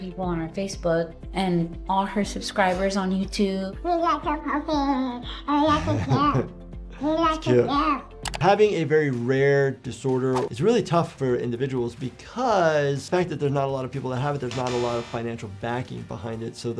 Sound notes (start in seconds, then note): 5.6 doctor laughing